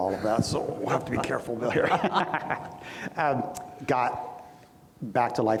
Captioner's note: laughs